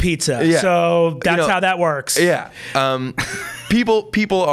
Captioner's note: laughs